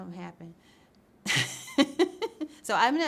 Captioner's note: laughs